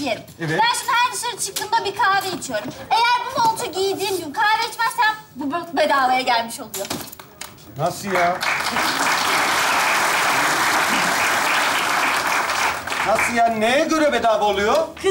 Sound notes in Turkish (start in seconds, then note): 8.0 Alkış sesleri